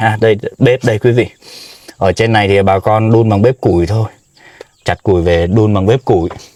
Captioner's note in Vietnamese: khịt mũi